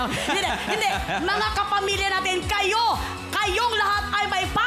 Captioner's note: robi chuckles